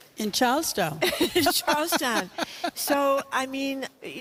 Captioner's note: laughs